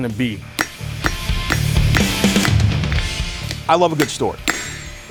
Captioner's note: hammer thudding